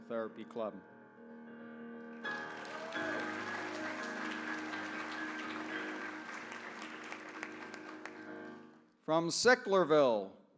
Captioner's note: applause